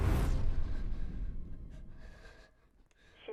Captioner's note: Sammy breathing heavily